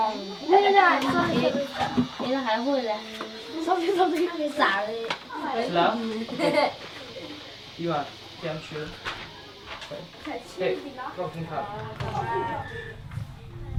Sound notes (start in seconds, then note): 6.2 kid giggles; 7.8 foreign language